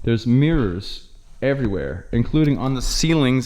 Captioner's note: none